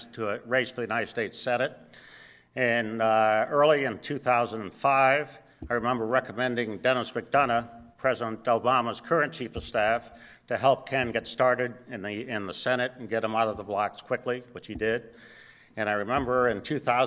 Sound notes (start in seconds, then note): none